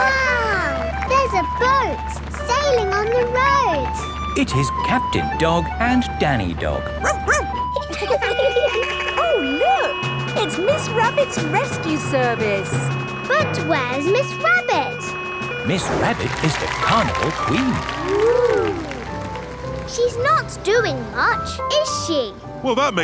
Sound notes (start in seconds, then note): 7.0 barks; 7.0 laughing; 8.1 sirens sounding